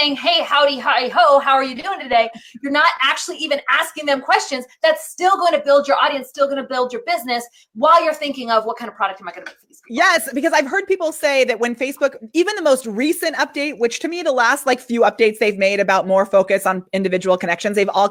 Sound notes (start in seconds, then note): none